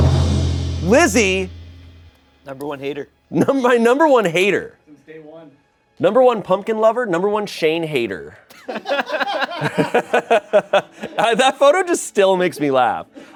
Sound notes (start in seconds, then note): 0.0 deflated music; 8.5 everyone laughs